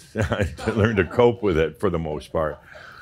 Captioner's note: chuckles